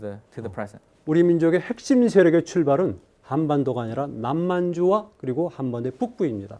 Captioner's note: speaking in Korean